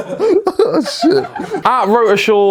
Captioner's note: laughs